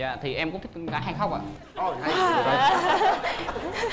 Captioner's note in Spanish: risas